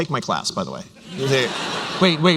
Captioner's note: laughter